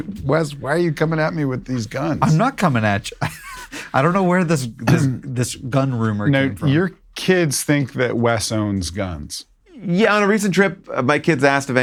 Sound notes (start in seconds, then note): 1.8 laughs